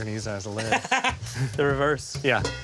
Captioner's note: laughing